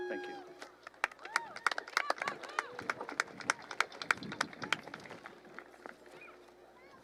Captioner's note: clapping